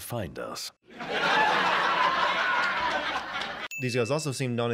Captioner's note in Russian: закадровый смех